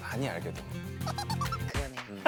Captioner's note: tee-hee